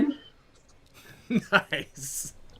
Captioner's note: laughter